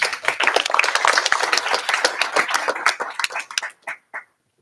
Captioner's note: applause